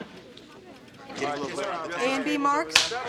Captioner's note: chatter